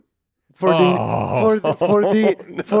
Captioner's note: laughs